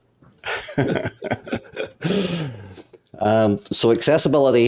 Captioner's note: laughing